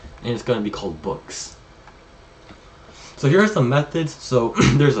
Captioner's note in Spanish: se aclara la garganta